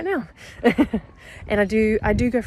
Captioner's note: chuckles